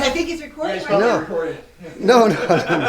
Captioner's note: laughing